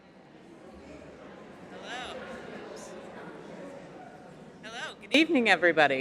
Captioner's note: audience chattering faintly